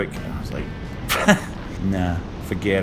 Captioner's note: laughs